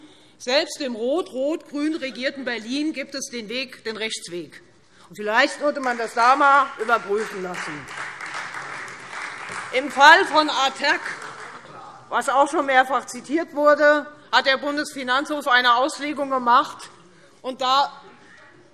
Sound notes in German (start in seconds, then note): 7.8 Beifall Freie Demokraten